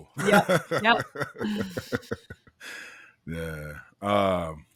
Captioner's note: laughing